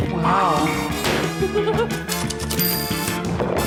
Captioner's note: typewriter clacks, dings; giggles